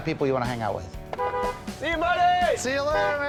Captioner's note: honks horn